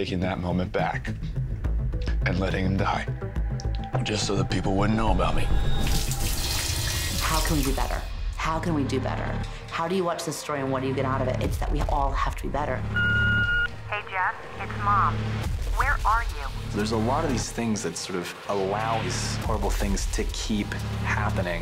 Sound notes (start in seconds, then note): 5.7 shower running; 12.8 answering machine beeps; 14.1 on answerng machine